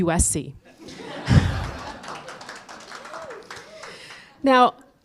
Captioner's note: audience laughing and clapping